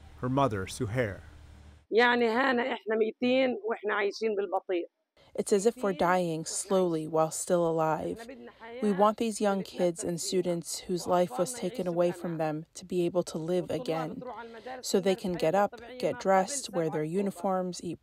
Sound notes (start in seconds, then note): 6.0 through translator